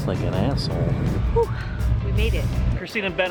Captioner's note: takes in breath